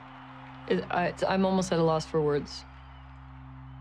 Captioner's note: she stammers